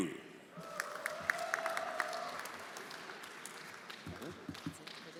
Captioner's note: everyone applauding